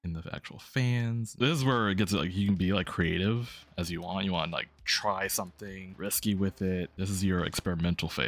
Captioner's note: stutters